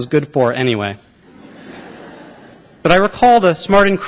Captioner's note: laughter